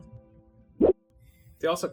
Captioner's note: swoop